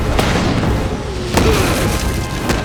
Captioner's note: grunting